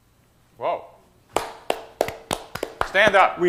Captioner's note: claps